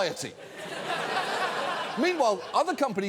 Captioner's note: audience laughs